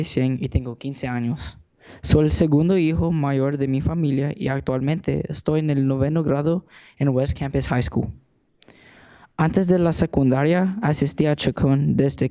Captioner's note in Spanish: hablando español